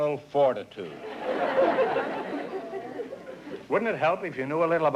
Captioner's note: laughter